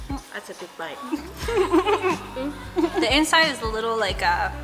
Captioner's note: giggles